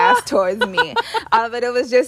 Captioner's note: laughter